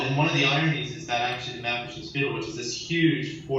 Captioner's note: in foreign language